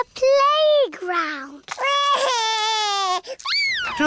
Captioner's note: crying